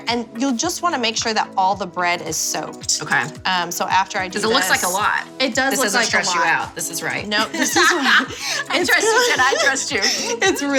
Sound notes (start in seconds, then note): 7.3 laughs